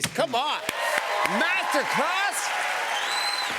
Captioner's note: cheers and applause